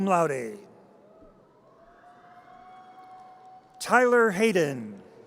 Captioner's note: audience cheers